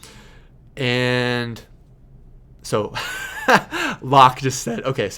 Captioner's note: laughing